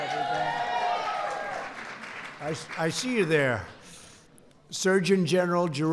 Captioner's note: applause